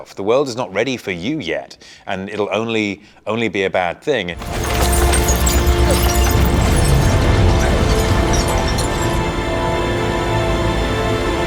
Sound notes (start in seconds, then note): 4.4 dramatic music; 6.6 debris clatters